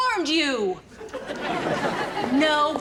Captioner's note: audience laughs